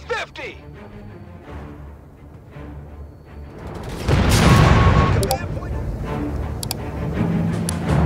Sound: explosion

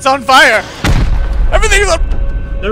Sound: boom

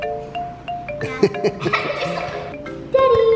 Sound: laughs

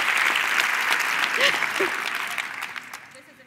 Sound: cheers and applause

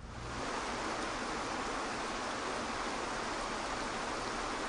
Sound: water rushing

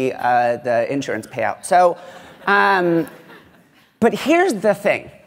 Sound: laughter

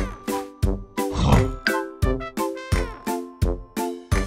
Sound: ox snorts

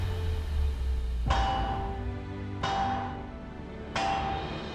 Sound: metal clanging

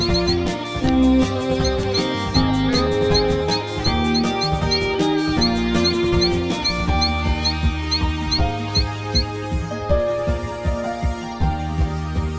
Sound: cheep, cheep; door opens

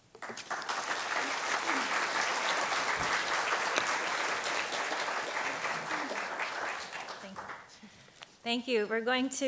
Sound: clapping

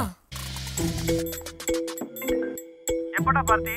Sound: phone rings

